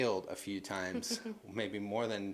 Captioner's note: chuckles